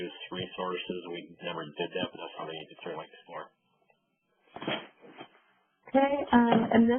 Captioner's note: voice fades